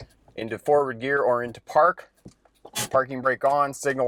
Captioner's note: parking brake creaking